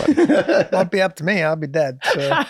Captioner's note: Rob laughs